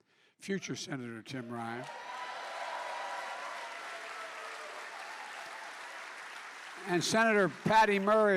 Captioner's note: applause